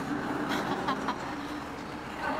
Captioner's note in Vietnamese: tiếng cười